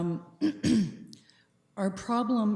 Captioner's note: clears throat